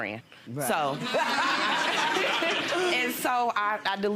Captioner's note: audience laughs